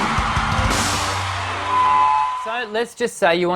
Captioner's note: microphone feedback